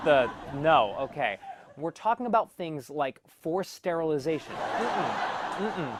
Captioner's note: laugh track